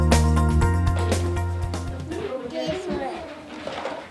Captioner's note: children and adults chatter